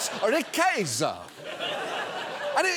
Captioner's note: studio audience laughing